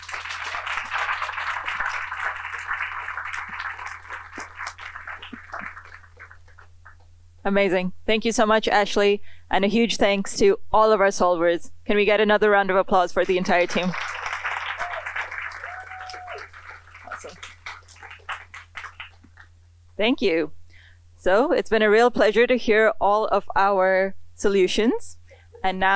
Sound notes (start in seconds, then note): 0.0 applause; 14.9 applause